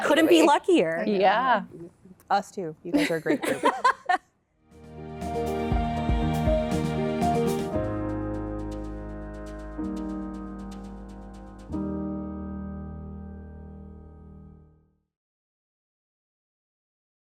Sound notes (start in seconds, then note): 2.9 laughter